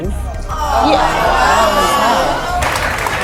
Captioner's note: audience groaning